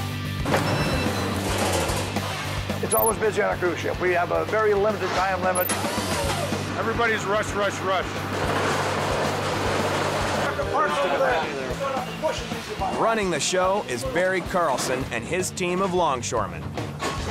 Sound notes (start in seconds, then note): 0.3 metal clanging; 5.8 machine humming; 10.4 overlapping chatter